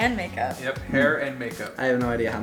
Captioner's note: male Voice